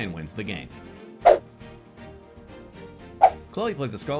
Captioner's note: logo whooshes